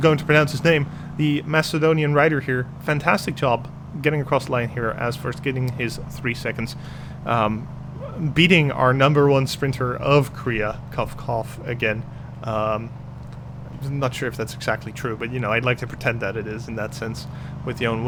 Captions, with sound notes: going to pronounce his name, the Macedonian rider here. Fantastic job getting across the line here as first, getting his 3 seconds. Beating our number one sprinter of Korea. *Cough Cough* Again, not sure if that's exactly true, but you know I'd like to pretend that it is. In that sense with